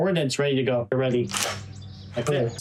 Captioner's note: gun cocking